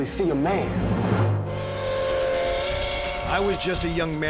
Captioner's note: train whistle